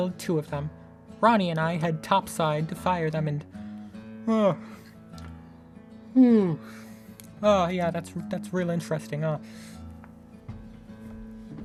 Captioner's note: yawn